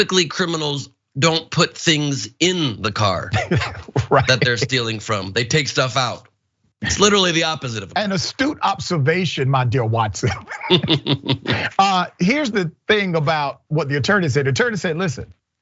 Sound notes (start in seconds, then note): 10.0 laugh